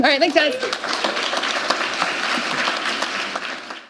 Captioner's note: applause